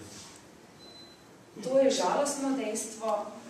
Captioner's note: non-english speech